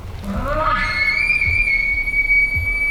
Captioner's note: caller bugling